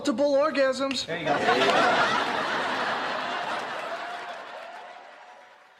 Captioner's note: audience laughter and cheers